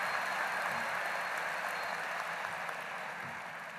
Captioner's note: applause